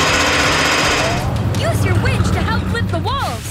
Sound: none

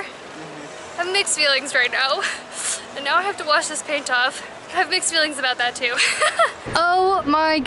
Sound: laughter

